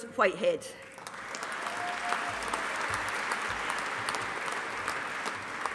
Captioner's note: audience applauding